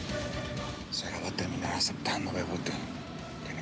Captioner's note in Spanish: en voz baja